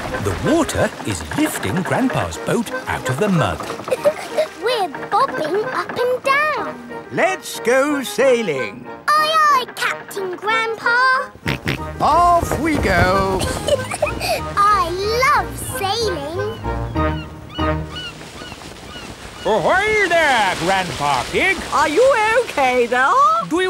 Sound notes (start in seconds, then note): 3.6 chuckles; 11.3 snorts; 13.2 giggles